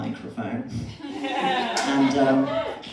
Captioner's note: laughter